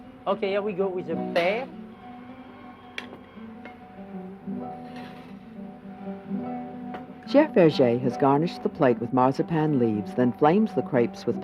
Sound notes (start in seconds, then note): 7.4 voiceover